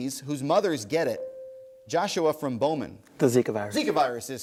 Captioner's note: ding